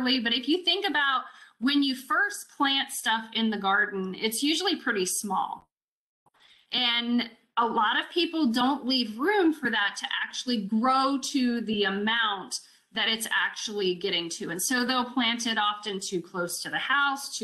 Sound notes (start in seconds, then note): none